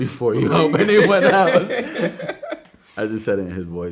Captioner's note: both laughing